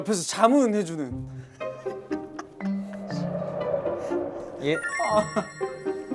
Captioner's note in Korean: ㅋ하하하ㅋㅋㅋ